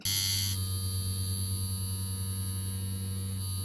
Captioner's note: machine whirring